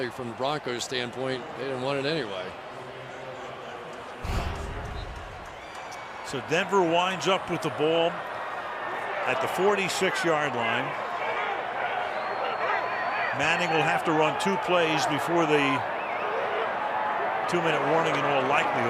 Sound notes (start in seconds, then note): 3.4 pa announcement